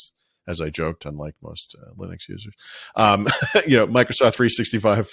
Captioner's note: laughing